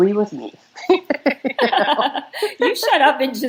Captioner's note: both laugh